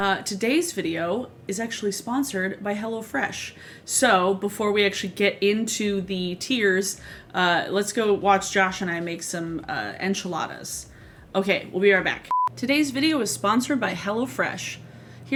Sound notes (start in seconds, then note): 0.0 static sound; 12.3 beep sound